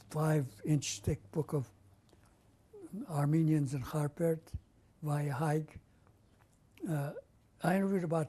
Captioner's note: non-english